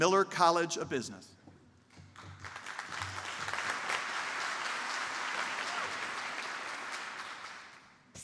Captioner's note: applause